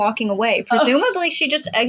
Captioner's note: chortle